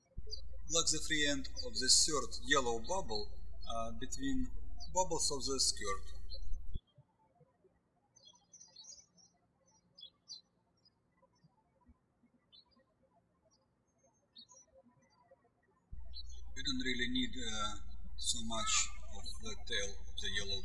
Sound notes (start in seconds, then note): 6.7 birds chirping